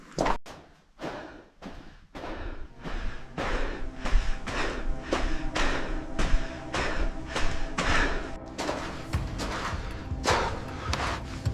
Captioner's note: footsteps crunch